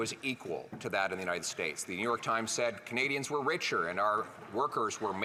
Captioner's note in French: applaudissements; voix de l'interprète